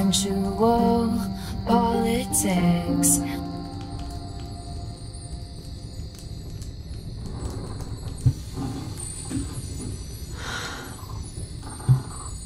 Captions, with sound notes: Sensual politics [Piano stops abruptly] [sound of magic?] [Inhale]